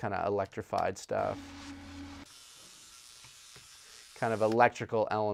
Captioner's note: electric buzzing plays